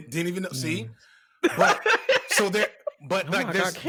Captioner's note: laughing